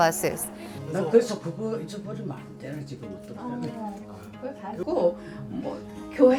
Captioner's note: student speaking in foreign language